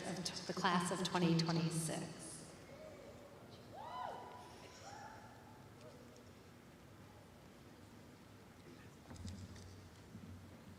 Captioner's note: cheering